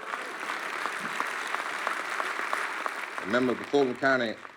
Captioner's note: applause